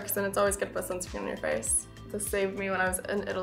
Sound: none

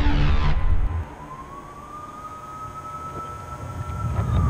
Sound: siren blaring

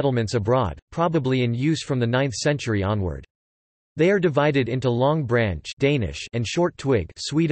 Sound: Danish

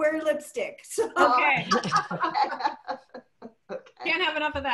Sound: laughter

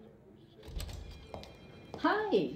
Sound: door opens. Telephone rings; sound of feet moving across the floor

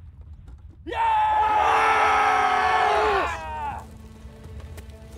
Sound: roaring cry

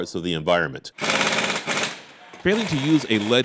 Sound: sounds of Car Shop

